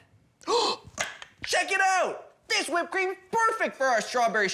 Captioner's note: gasps